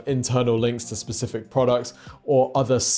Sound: none

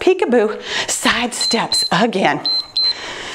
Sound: timer beeps

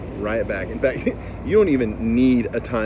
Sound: chuckles

